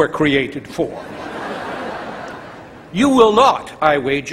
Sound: laughter

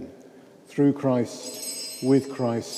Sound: bell rings

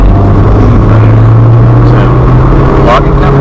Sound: car revving

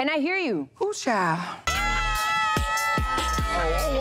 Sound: everyone cheering

